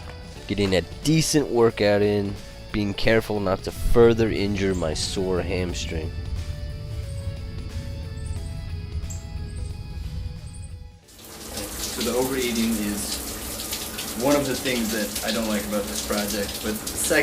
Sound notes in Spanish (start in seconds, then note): 11.0 el agua está golpeando